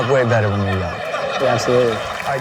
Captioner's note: laughing